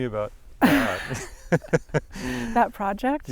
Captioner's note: both laughing